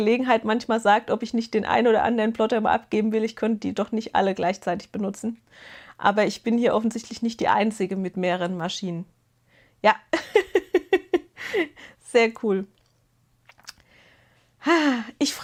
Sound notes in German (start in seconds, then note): 10.1 Gelächter